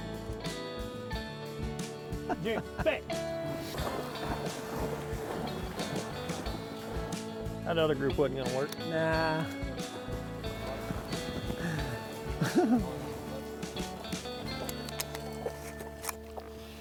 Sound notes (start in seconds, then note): 0.1 soft music; 2.2 hunters laugh; 3.7 water splashes; 10.4 soft music; 10.4 water splashes